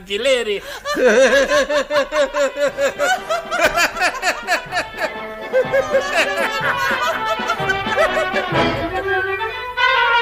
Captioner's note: they both burst out laughing